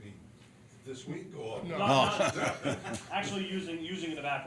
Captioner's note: laughter